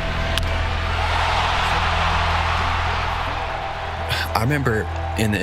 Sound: bat cracks, crowd roars

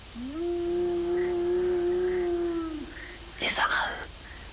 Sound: yowling continues; sustained yowl

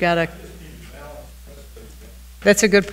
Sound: speaking distantly

